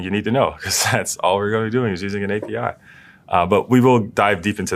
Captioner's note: laugh